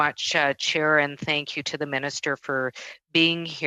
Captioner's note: speaking French